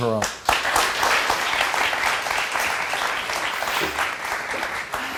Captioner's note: crowd applauding